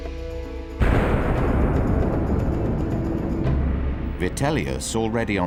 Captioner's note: sculpture booming